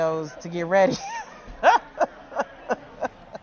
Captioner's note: laughs